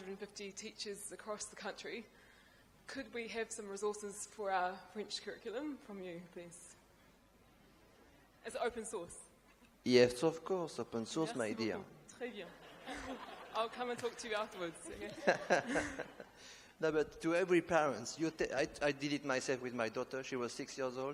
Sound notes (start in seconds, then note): 12.3 speaks in a foreign language; 14.8 laughter